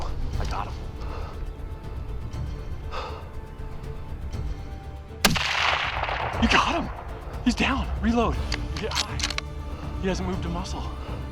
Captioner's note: gunshot